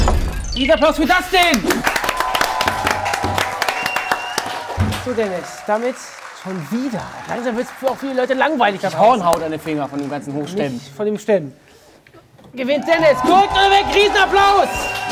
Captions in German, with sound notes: Riesenapplaus für Dustin! (Jubel, Applaus) So, Dennis, damit schon wieder. Langsam wird's langweilig. Krieg ich Hornhaut an den Fingern vom Hochstemmen. Nicht vom Stemmen. Gewinnt Dennis "KORREKT oder WEG!". Riesenapplaus!